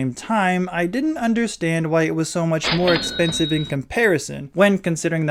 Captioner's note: cash register sound